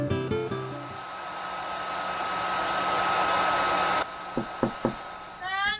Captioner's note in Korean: 헤어 드라이기이잉~ 머리 말리는 소리